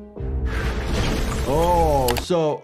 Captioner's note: dramatic music; wall crashing